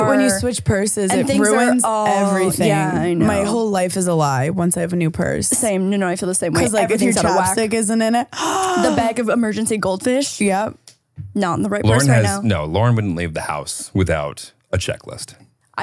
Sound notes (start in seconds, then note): 8.5 gasping